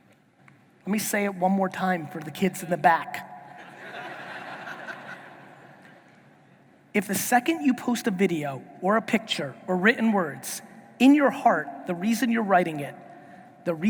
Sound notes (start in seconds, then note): 3.6 audience laughing